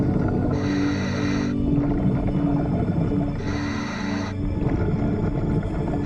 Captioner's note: suspenseful music; underwater breathing